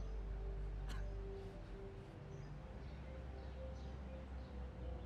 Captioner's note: man coughing